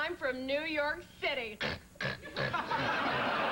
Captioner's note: snort snort